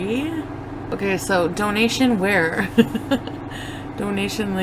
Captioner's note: laughing